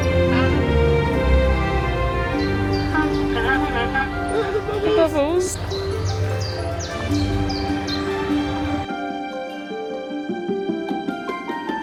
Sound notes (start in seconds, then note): 0.1 enchanting music continues; 6.2 birds chirping; 7.6 enchanting music continues